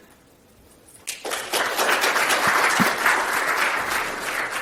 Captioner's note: applause